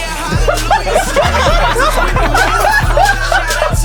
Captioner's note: crowd laughing